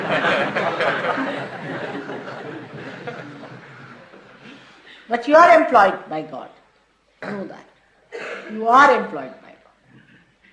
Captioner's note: laughter